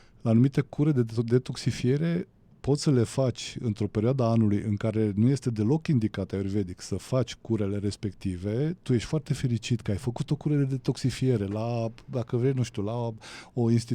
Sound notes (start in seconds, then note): none